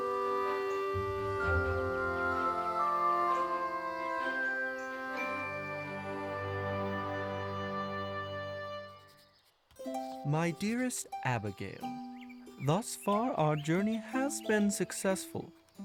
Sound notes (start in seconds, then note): 0.0 gentle, pastoral music; 9.9 Lewis voiceover over romantic music